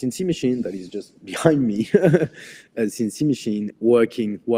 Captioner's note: laughs